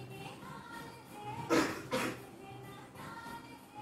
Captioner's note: cough